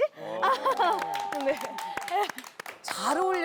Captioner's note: applause